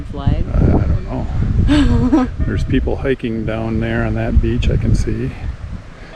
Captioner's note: laugh